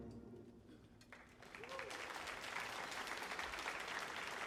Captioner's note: applause